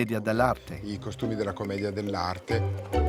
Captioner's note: Italian spoken audio